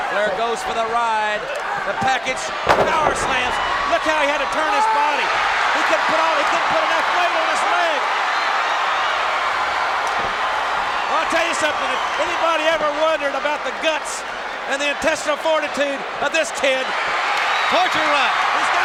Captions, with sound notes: Flair goes for the ride. The package powerslam! Look how he had to turn his body! (Luger screams) (crowd cheers) He couldn't put enough weight on his leg! I'll tell you something, if anybody ever wondered about the guts and the intestinal fortitude of this kid. Torture Rack!